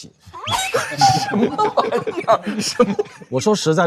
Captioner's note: laughing out of anger